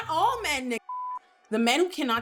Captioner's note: beep